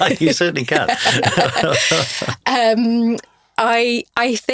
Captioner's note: both laughing; laughs